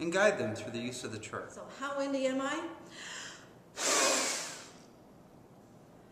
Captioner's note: blowing